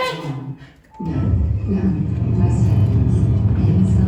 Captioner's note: shifting sounds; Glitching Alexa Voiceover